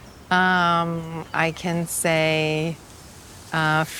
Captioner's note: speaking foreign language